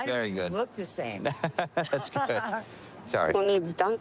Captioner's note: laughing